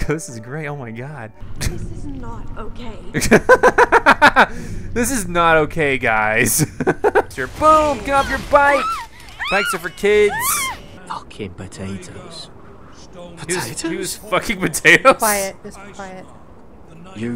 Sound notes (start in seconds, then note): 3.3 laughs; 6.6 laughs; 15.5 voiceover